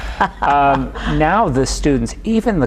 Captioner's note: chuckles